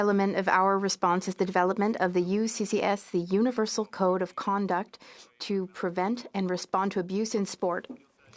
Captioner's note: speaking French